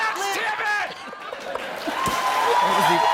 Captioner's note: laughter